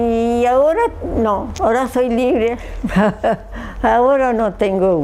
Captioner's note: she laughs